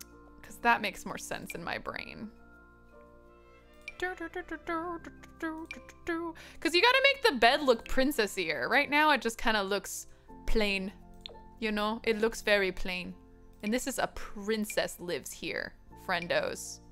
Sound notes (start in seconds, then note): 3.9 vocalizing rhythmically